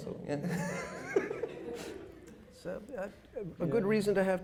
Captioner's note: chuckles